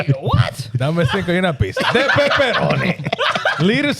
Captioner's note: speaking In Foreign Language; laughing